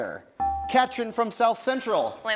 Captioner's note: bell rings